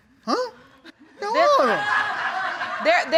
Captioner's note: audience laughing